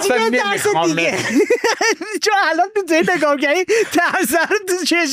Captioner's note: laughs